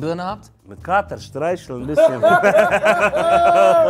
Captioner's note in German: Lachen